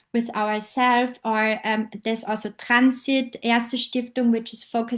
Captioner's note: german